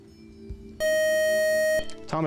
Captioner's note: time-out buzzer